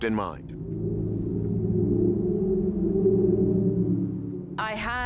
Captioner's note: whistling